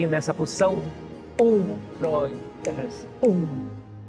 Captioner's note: vocalizes the beat